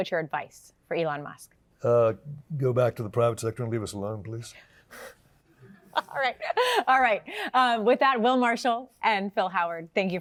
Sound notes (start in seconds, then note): 5.8 laughs